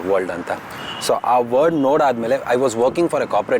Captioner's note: speaks in Kannada – not transcribed